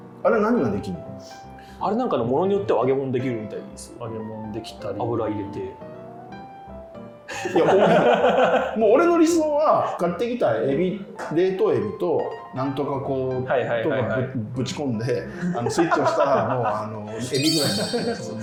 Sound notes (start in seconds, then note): 7.3 laughing